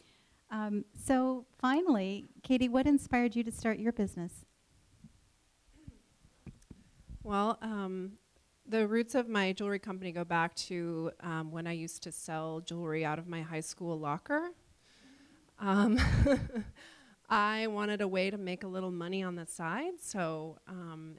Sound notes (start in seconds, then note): 15.8 chuckles